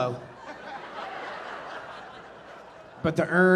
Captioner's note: audience laughing